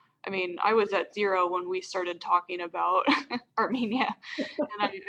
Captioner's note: laughs